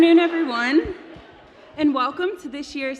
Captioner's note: cheers; applause